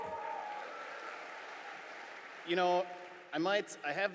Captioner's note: audience applauding